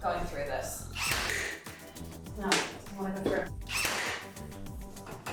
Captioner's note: drill whirring